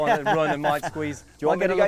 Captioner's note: laughing